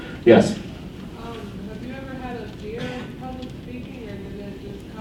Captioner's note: voiceover